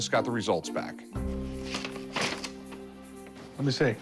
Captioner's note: paper rustling